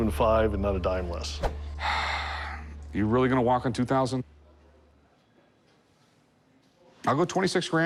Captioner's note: sigh